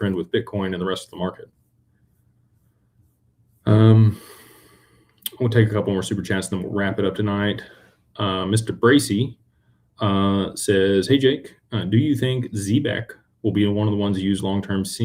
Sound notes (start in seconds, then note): none